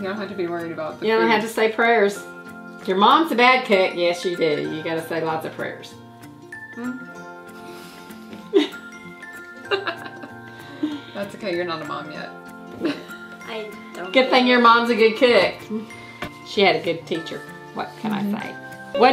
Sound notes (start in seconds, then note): 7.7 upbeat music; 9.5 both laughing; 13.0 laughing